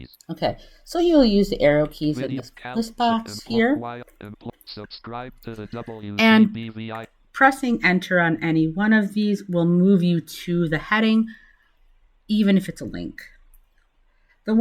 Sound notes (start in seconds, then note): 4.2 JAWS continues to read content as Amy speaks